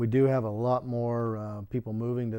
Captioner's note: none